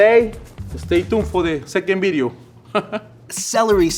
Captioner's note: chuckles